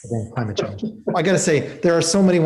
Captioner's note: laughs